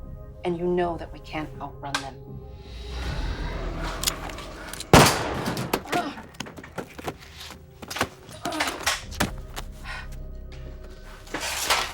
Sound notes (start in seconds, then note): 3.0 intense music continues; 4.9 gun firing; 5.1 Lucky groaning